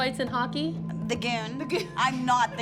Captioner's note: laughs